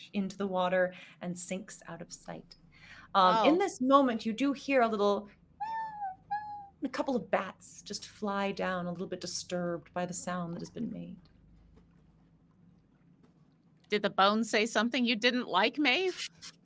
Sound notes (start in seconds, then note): 5.7 mimicking squeaking